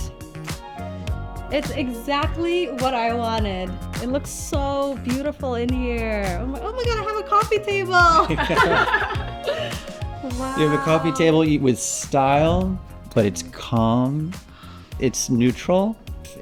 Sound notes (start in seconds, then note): 8.1 all laughing